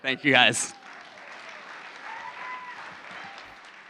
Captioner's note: applause